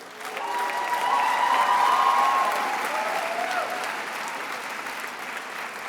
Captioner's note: attendees applauding and cheering